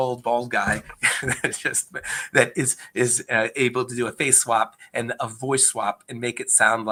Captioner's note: laughs